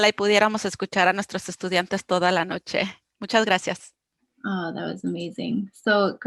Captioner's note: speaking foreign language